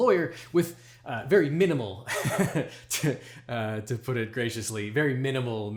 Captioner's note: chuckles